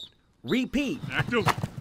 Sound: sounds of football practice

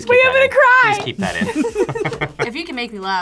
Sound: both laugh

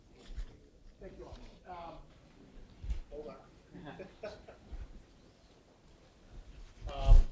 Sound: laugh

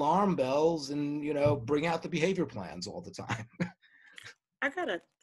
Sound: laughs

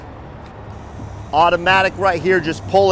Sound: air hissing

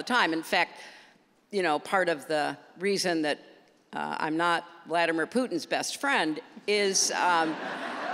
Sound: laughter

